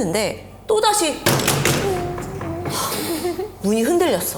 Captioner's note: the knocking echoes again